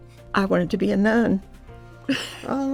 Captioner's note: laughs